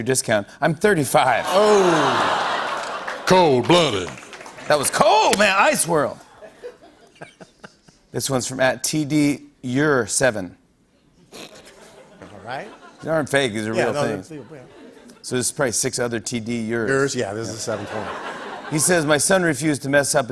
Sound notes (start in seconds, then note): 6.2 laughs; 10.5 snorts